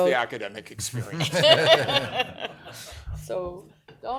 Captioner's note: laughter